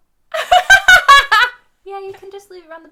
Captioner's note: laughing